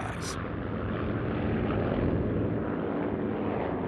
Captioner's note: plane roaring